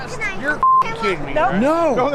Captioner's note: beep